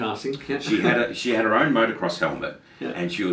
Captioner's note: laughing